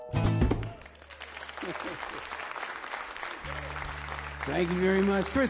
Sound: audience claps

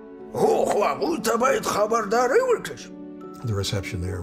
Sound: speaking foreign language

